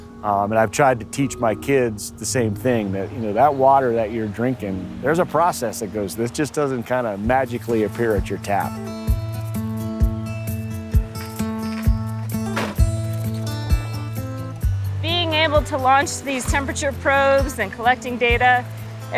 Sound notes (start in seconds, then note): 10.7 door slams; 12.6 boots on gravel